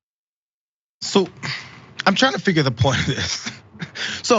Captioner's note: laugh